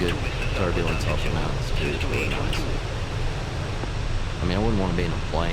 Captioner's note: radio chatter